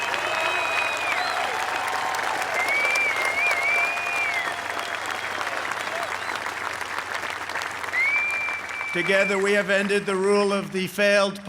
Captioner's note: applause